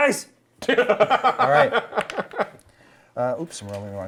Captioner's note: Viari laughs